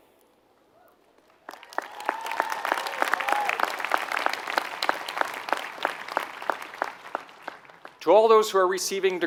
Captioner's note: applause